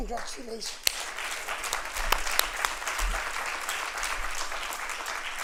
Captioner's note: applause